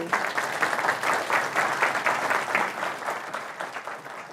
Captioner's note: audience applauding